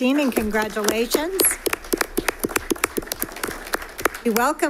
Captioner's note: applause